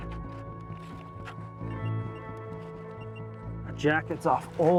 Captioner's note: beeping